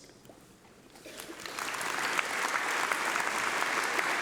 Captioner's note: applause